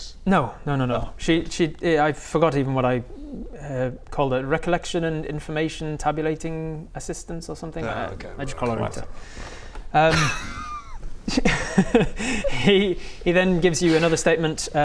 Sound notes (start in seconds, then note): 10.0 mocking laugh